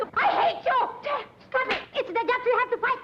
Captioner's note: hand slaps